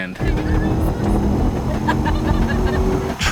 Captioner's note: engine revving drowns out speech; passengers laughing